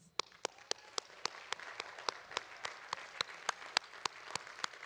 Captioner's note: audience applauding